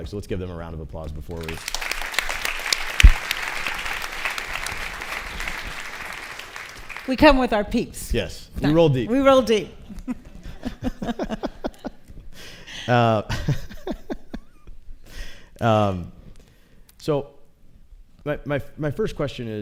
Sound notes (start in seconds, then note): 1.4 applause; 9.9 laughter